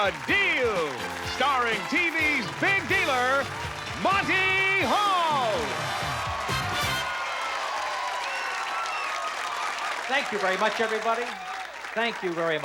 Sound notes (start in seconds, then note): 5.0 cheering and applause